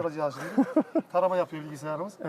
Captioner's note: laughs